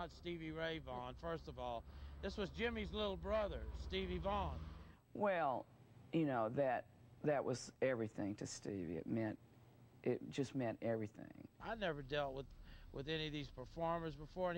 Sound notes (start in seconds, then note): none